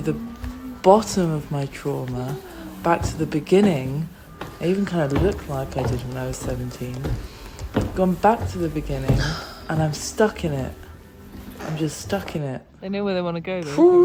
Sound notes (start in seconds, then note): 6.9 footsteps